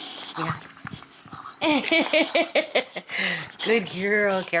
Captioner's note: Jasmine laughing